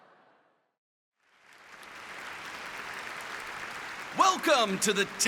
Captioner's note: applause